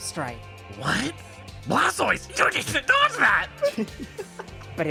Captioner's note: laughs